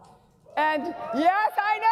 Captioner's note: audience clapping and cheering